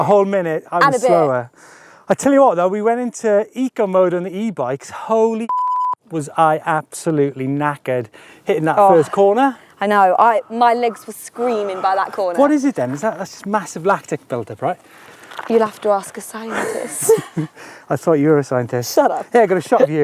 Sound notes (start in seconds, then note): 16.4 laughs